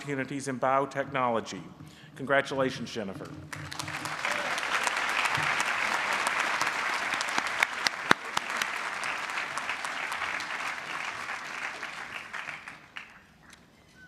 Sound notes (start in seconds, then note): 3.4 applause